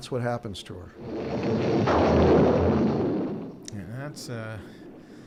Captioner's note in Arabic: هدير الرعد